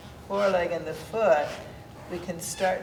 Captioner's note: floor squeaking